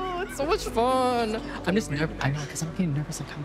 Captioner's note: faintly speaking